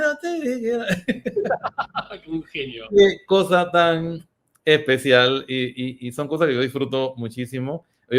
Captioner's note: laughs